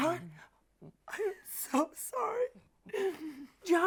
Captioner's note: Tina whimpers; sobs